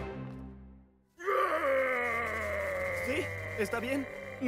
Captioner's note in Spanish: gruñendo